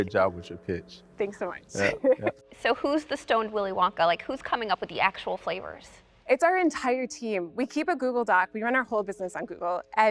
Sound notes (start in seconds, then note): 1.7 laughs